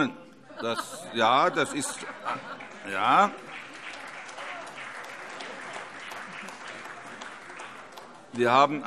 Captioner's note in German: Heiterkeit und Beifall